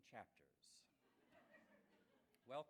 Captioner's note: laughs